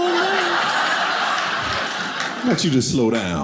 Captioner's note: audience laughing